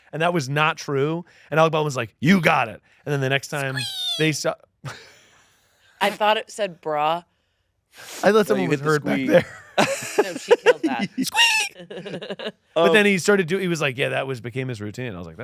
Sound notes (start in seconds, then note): 5.2 laughing; 9.8 laughing